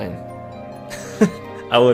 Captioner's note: chuckles